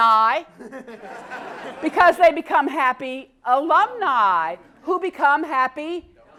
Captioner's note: laugh